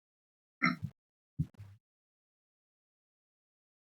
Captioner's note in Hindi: गला साफ़ करने की आवाज़